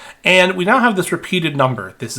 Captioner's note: none